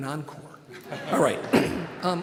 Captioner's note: audience laughing